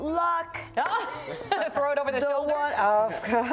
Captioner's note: laughs